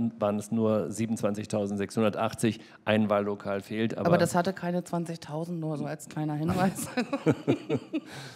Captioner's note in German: lachen